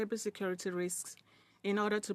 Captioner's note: speaking in French